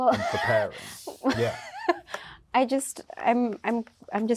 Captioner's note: laughs